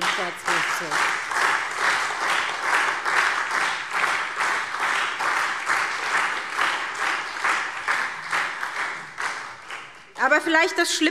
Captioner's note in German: Beifall SPD und Freie Demokraten